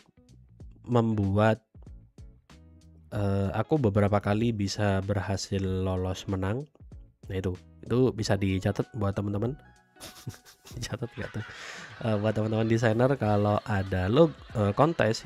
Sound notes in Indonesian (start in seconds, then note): 10.0 tertawa